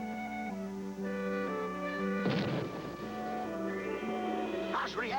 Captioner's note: explosion